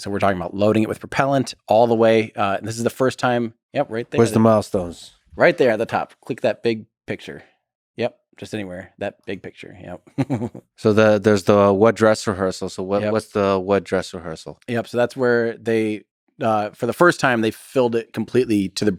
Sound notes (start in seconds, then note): 10.0 Lex laughs